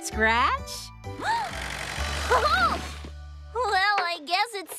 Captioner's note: gasps